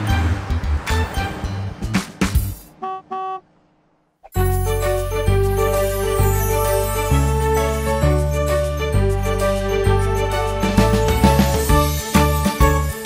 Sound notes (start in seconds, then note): 2.6 horn honks; 4.4 lighthearted music